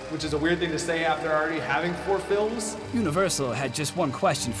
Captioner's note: echoes